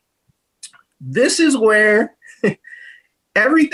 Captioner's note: chuckles